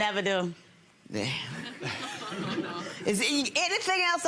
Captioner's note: audience chuckles